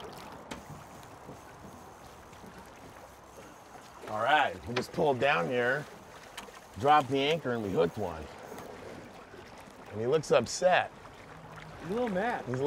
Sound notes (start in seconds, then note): 0.2 fish splashing; 0.4 reel spinning